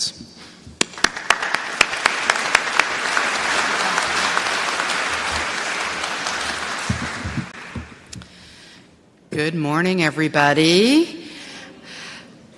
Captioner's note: applause